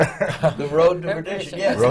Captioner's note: laughter